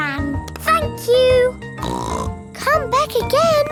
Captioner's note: snorts